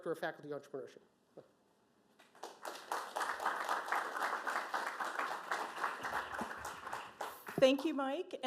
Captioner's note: applause